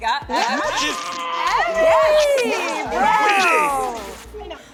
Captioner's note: cheering